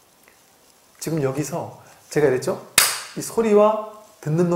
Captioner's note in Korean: 대나무 소리